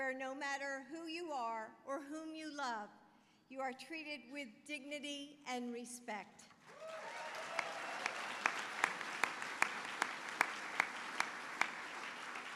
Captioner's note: applause